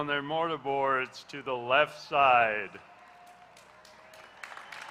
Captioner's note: applause